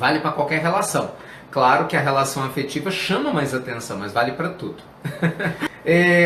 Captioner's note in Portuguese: risos